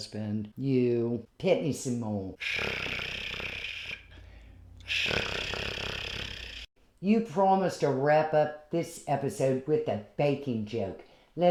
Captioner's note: cat purring